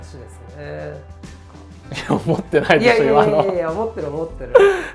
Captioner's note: laughs